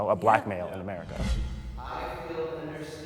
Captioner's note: dramatic whooshing